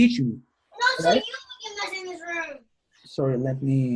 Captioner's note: child talking in background